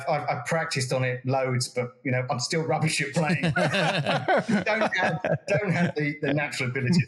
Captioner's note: laugh